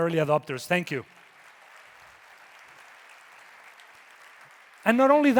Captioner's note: audience applauding